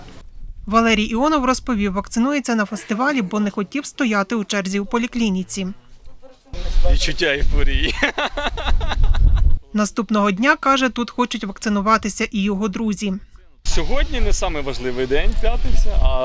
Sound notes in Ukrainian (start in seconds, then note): 7.9 сміється